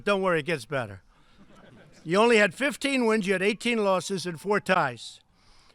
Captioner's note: laughter